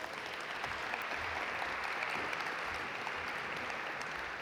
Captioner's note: audience applaud